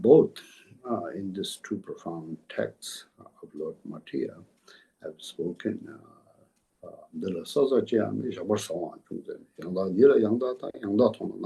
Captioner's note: tibetan